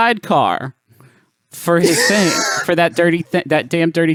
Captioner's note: laughs